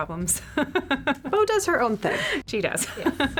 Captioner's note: laughs